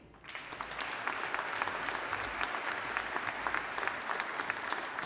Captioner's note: audience applauding